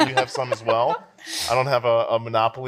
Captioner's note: laughs